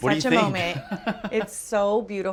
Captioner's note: laughs